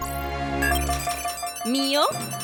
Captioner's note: box beeps